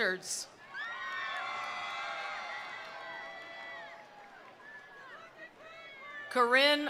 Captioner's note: attendees cheering; attendees applauding